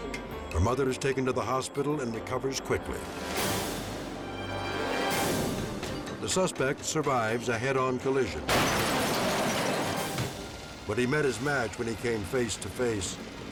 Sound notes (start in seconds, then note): 8.4 cars crashing